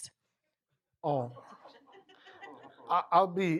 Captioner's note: laughter